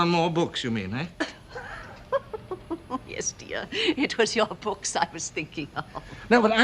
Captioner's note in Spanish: Risas